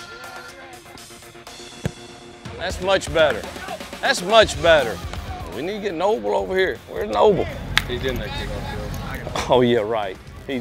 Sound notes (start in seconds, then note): none